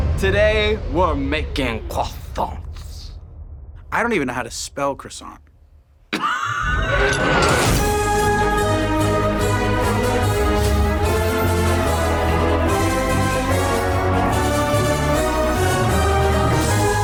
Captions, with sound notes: - Today we're making croissants. I don't even know how to spell croissant. (laughs) (dramatic music)